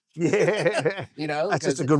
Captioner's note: laughing